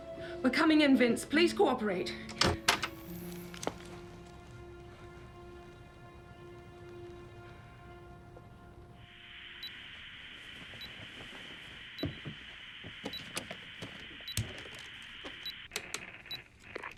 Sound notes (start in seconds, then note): 9.7 radio buzzes with static; 10.9 radio beeps